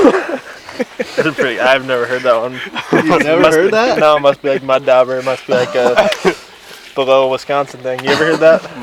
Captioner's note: laughing